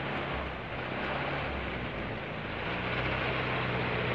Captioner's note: car engine revving